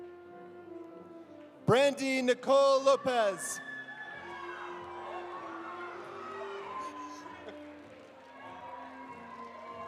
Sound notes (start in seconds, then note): 2.8 audience cheering; 4.1 audience applauding